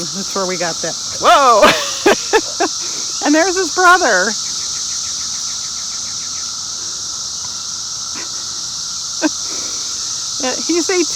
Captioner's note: laughs